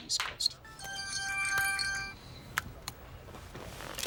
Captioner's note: ringtone ringing